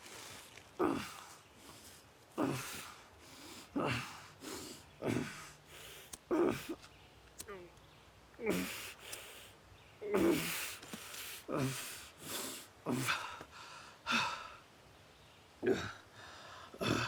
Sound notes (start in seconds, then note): 5.9 lighter clicking